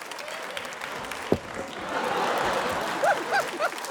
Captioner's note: thud!; laughter